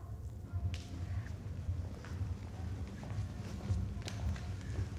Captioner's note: people walking